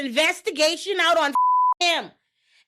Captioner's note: beep